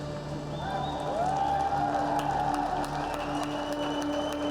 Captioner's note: cheers and applause